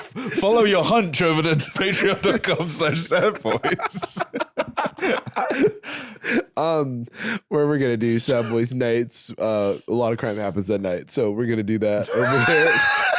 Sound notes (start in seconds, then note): 4.3 both laughing; 12.1 both laughing